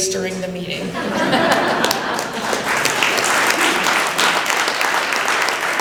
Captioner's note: applause